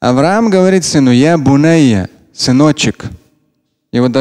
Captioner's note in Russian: говорит на арабском